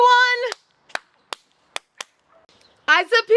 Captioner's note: clapping